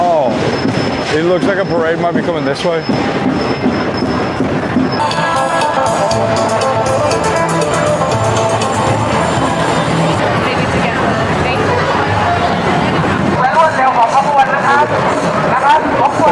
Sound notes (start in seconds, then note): 5.1 bustling streets; 13.5 foreign language over loud speaker